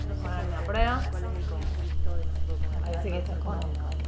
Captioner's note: talking, clicking